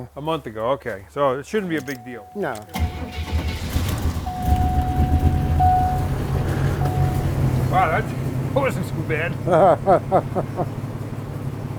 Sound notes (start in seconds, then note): 2.6 engine starting; 4.7 car beeping; 8.8 laughing